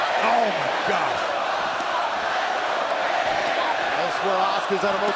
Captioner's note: crowd cheering